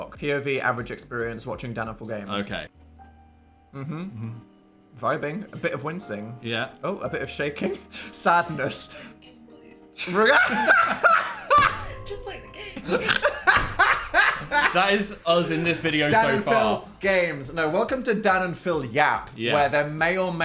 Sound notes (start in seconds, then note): 8.4 soft music; 10.1 Dan and Phil laughing